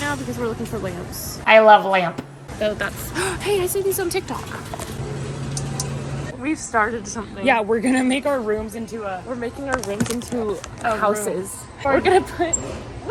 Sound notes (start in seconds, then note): 5.6 nails tapping